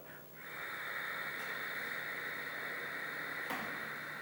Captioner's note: breathing